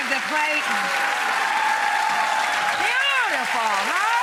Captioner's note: applause